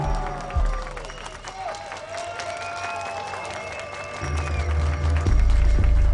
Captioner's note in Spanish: Aplausos